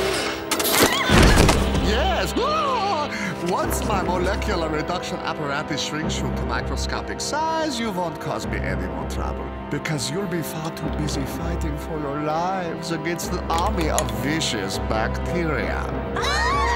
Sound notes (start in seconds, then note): 0.9 laughs maniacally; 2.1 all exclaim